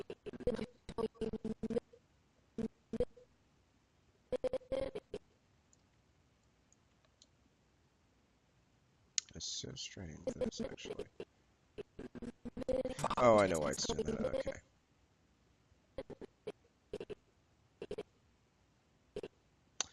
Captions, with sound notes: (audio skipping) That's so strange, that's actually, oh, I know why it's doing that, okay. (audio skipping)